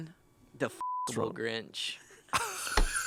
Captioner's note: beep; laughs